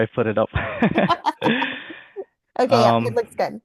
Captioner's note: both laughing